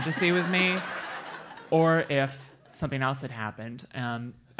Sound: laugh

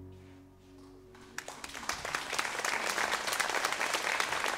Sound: applause

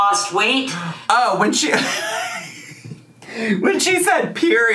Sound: laughs

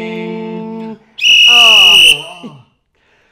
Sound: sports whistle

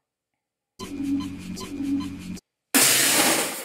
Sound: Half life HEV suit charger sound effect.mp3 again

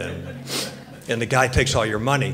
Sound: audience laughs

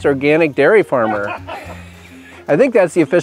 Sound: off screen laughter

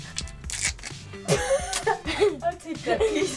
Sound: laugh

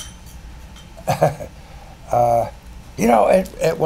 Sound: chuckles

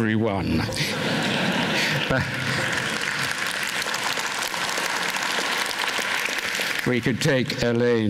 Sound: applause

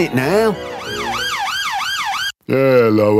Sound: police siren

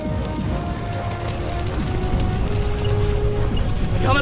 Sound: fire crackling

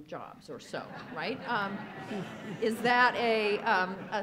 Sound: audience laughs

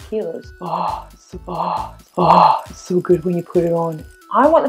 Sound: deep exhale

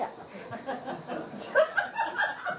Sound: laughter

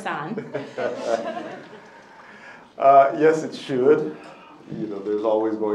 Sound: laughs

